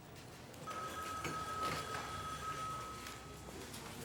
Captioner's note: phone rings